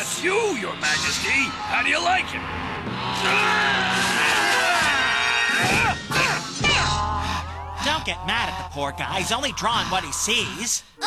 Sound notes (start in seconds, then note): 3.0 growls in anger; 5.2 grunting, panting